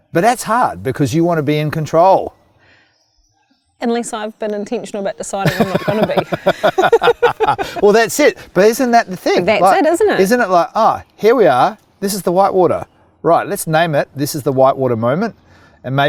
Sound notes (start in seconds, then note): 5.4 both laugh